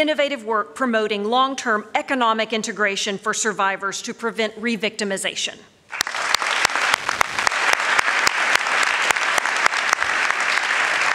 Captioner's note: applause